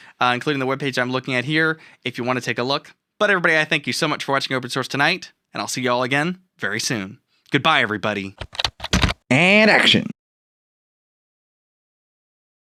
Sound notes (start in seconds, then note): 8.4 typing Sound